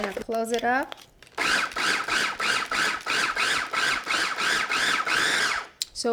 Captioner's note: food processor whirring